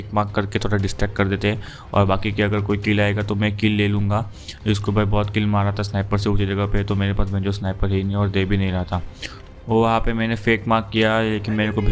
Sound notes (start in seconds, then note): 9.2 sniffs